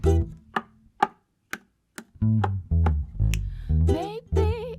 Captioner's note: knock knock slap slap knock knock snap